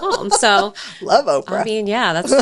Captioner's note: laughs